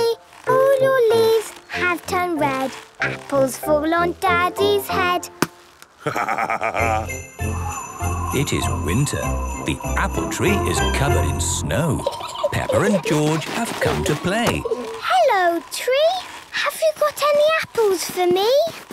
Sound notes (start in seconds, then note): 6.0 laughing; 7.3 wind blowing; 11.8 kids giggling